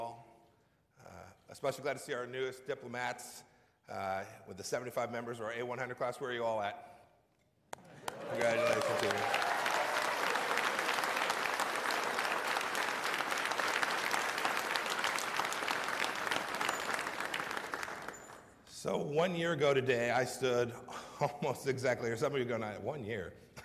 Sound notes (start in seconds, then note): 14.8 applause